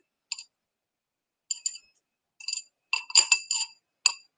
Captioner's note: tools click on bowl